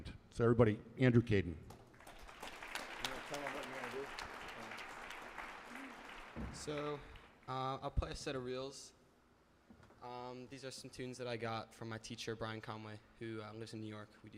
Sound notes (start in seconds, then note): 1.8 audience applauds